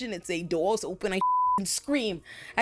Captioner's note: beep